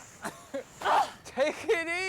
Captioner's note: Abigail grunts